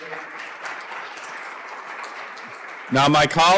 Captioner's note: applause